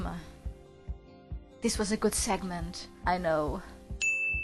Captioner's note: whispering